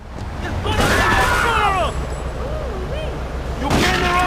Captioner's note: gun firing